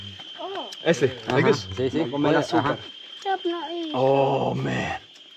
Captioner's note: speaking in foreign language